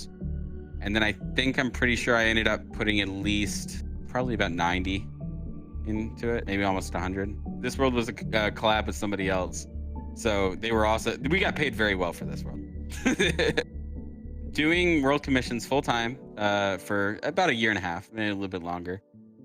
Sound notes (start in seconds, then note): 13.0 laughs